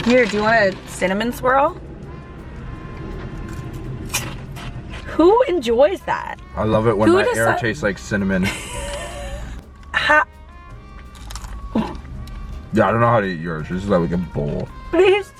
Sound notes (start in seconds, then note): 3.0 crunching; 8.3 laughing; 10.9 crunching